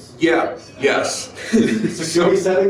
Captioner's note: people laugh